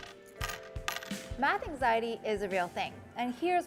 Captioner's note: coins clinking